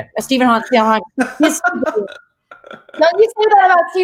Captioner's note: laughs